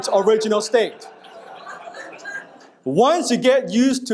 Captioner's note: audience laughing